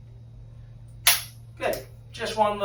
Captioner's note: activator clicks